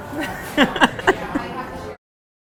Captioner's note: laughs